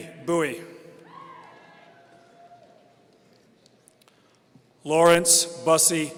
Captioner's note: audience cheering